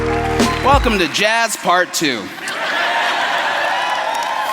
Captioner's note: applause; laughter